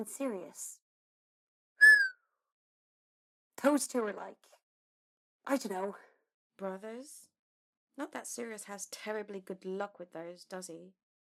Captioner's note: Marlene whistles